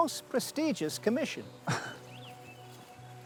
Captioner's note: laughs